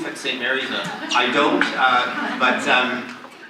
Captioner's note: audience laughs